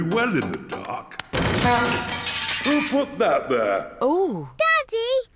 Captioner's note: crashing